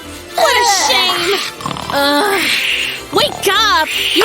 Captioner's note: keeps snoring; loud snoring